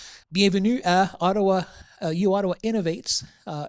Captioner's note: in English